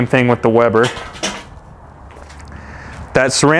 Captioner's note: metal clanking